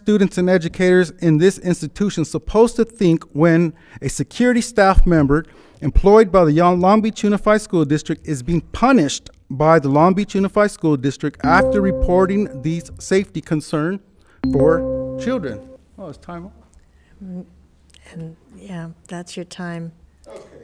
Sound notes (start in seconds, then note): 14.5 buzzer beeping